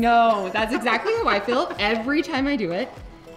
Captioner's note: laughing